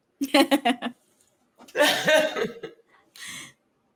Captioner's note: women laughing